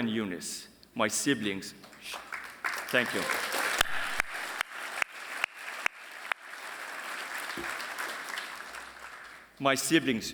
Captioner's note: applause